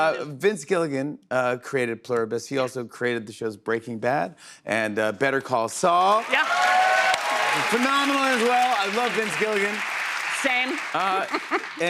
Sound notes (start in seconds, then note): 5.9 cheers and applause